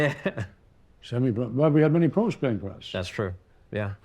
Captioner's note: chuckles